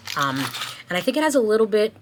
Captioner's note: wrapper scraping